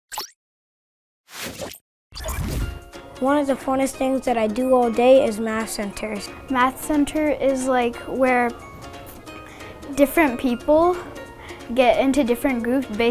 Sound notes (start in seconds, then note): 0.0 digital Woosh; 0.0 happy music begins